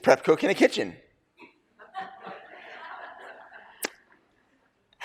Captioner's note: laughter